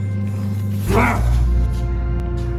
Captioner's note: grunts